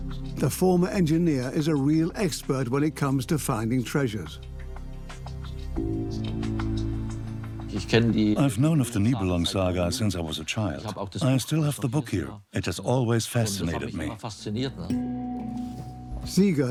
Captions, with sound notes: The former engineer is a real expert when it comes to finding treasure. (in German) (dubbed in English) I've known the Nibelungen saga since I was a child. It's always fascinated me.